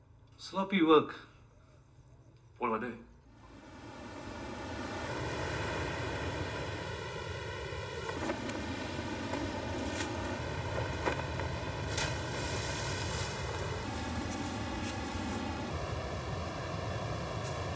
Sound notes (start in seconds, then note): 4.1 wind blowing; 10.6 water splashing